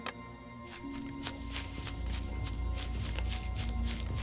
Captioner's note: paws pattering